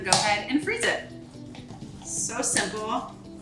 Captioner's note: cheese scraping